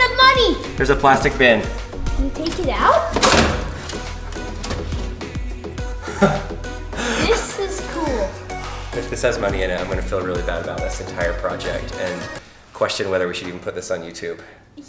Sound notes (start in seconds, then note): 4.1 dramatic music; 6.0 man laughing